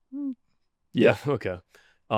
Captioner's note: laughs